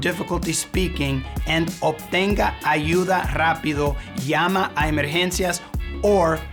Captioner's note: speaking in Spanish